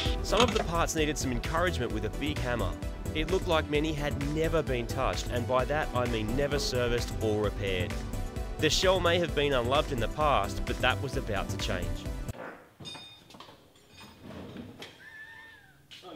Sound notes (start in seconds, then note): 12.3 fart; 15.0 laughs